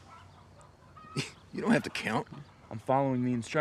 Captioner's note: scoffs